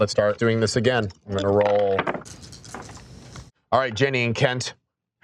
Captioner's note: dice rolling